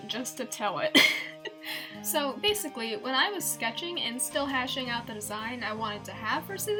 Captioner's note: giggles